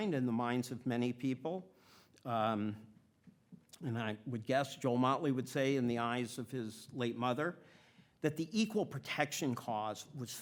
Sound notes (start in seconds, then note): none